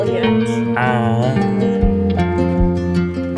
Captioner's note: yak noise